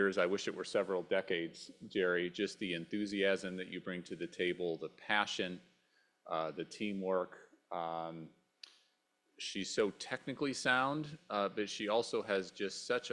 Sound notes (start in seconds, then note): none